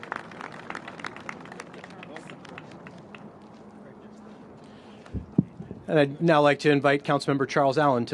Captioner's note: applause